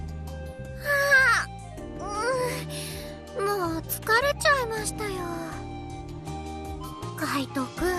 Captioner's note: sigh